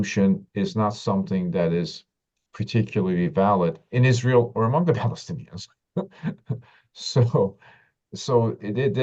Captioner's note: laughs